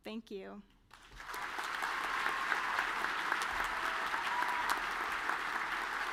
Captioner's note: audience cheering and clapping